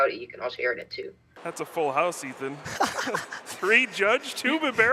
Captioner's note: hyena laughs